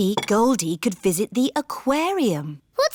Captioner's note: none